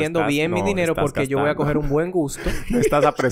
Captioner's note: laughs